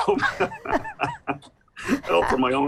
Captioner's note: both laugh